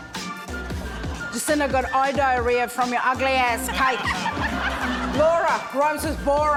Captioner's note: laughter